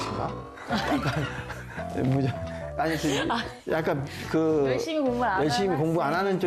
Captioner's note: laugh